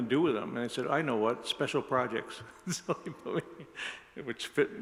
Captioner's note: laughs